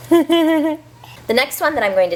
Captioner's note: laughing